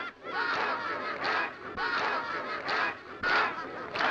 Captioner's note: group shouting